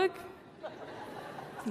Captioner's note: laughter